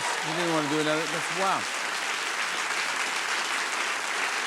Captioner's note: applause